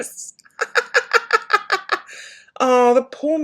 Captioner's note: laughing